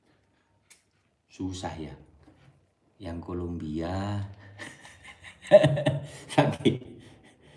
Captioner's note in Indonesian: tertawa